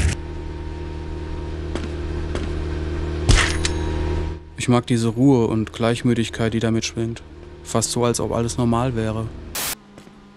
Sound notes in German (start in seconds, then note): 0.2 Dröhnen; 3.3 Schlaggeräusch, Klingeln; 9.5 Rauschen